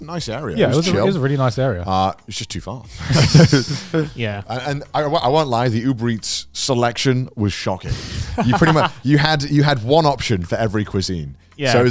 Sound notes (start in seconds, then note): 2.9 chuckles; 7.9 laughs